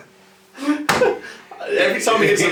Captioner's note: laugh loudly; table bangs loudly